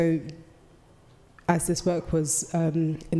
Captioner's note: none